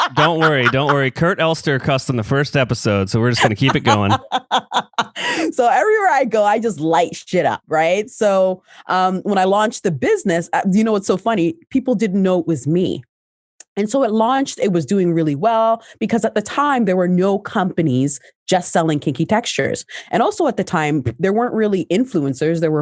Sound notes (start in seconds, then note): 0.0 laughs